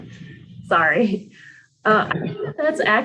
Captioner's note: all laughing; chuckles